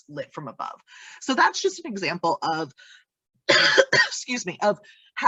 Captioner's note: coughs